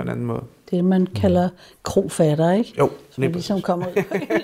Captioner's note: laughs